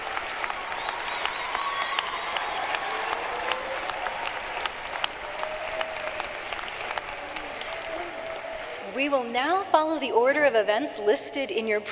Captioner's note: cheering and applause